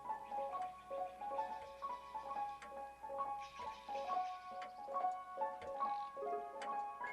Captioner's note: ticking